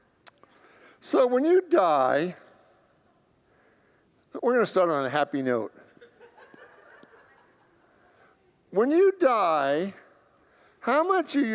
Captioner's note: congregants laugh